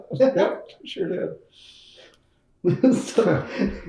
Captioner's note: laughs